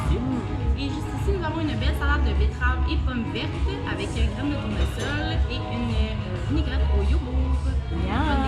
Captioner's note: speaking in French